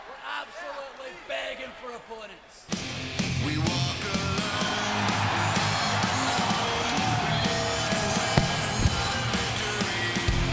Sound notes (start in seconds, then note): 2.8 upbeat music; 2.9 crowd cheering